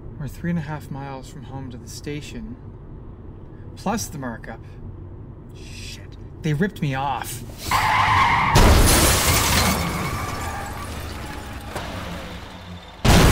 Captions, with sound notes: We're three and a half miles from home to the station. Plus the markup. Shit, they ripped me off. (tires squealing) (cars crashing)